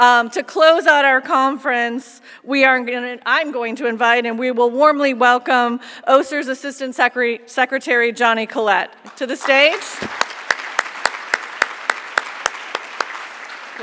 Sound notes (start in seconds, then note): 9.0 audience clapping